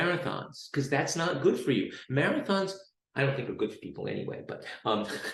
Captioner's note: chuckles